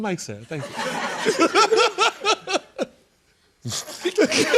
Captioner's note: laughter